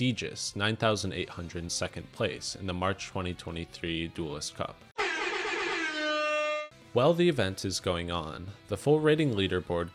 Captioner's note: air horn noises